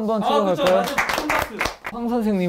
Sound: loud applause

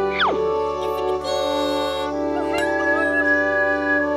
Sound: speaks gibberish and giggles

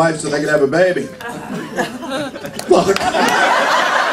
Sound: laughter

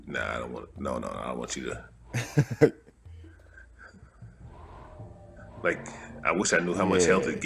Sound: laugh

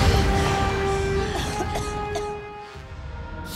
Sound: gasping; coughing

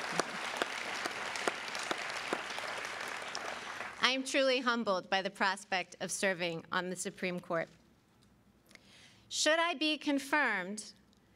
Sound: applause

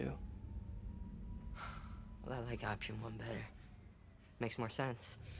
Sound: EXHALlNG

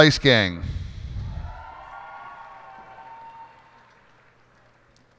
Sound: cheers and applause

